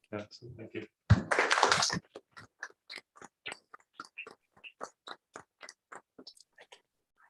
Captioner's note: applause